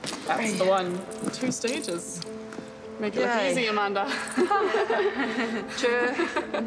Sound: all laugh

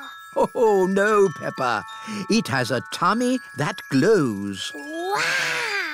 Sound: laughs

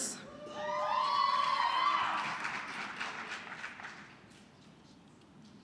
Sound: cheering, applause

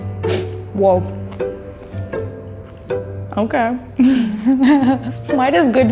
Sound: laughs

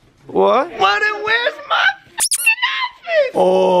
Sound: high pitched

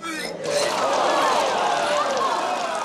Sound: crowd moaning

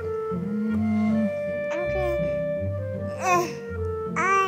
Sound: soft flute music; baby cooing

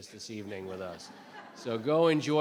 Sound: laughter

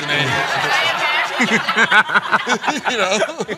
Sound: laughter

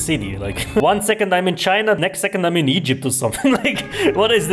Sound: chuckles

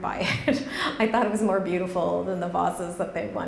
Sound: chuckles

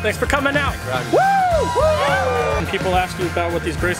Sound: cheers

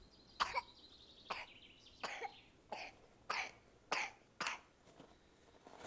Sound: coughs repeatedly

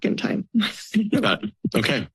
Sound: laughs

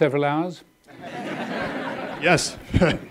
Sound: audience laughing

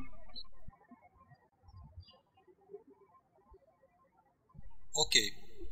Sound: birds chirping

